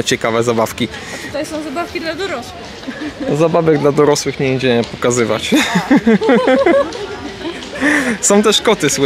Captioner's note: laughter